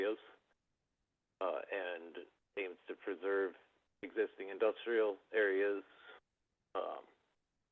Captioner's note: by phone; by phone